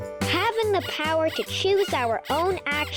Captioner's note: upbeat music; bunny squeaking